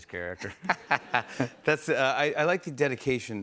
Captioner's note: laughter